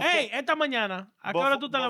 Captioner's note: speaking In Foreign Language